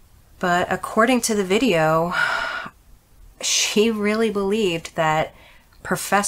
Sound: sighs

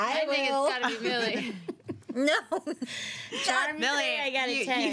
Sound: girls laughing

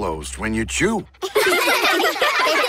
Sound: laughing

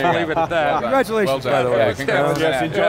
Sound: laughing

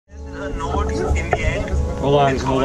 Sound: radio chatter

